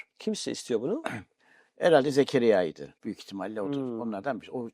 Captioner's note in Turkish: boğazını temizler